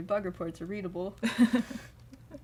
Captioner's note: laughter